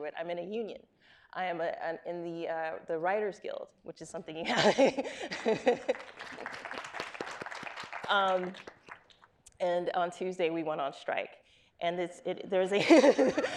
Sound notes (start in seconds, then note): 4.5 laughs; 5.3 audience applauding; 12.8 laughs